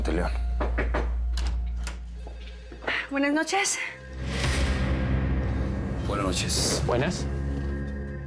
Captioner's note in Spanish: toques en la puerta